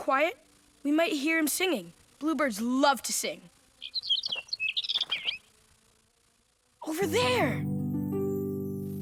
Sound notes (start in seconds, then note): 3.7 chirping